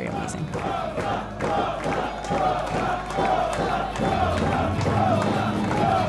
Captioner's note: crowd cheers Rosa's name